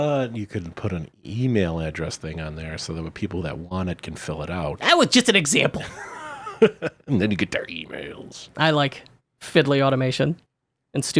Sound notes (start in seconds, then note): 5.7 laughing